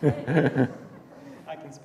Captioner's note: laughter